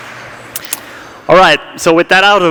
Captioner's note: applause